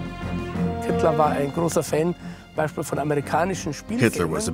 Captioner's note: German spoken audio